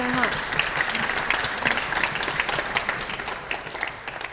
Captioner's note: audience claps